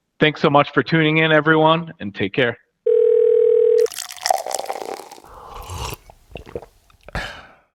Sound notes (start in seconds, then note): 2.8 phone ringing; 3.8 liquid pouring; 5.5 person slurping; 5.5 person swallowing